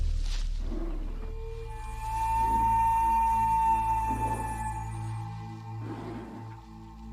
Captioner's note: groaning